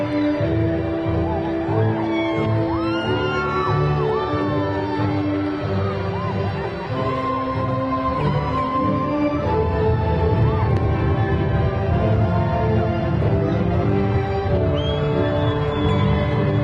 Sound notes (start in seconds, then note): 0.1 graduation music continues; 5.5 crowd cheering